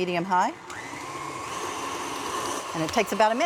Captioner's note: whirring increases